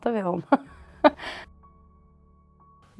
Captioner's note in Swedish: Skratt